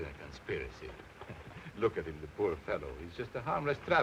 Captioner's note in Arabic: يضحك